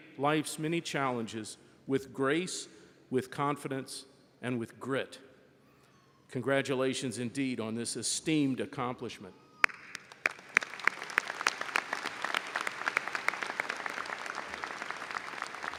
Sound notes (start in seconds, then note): 9.6 audience applauds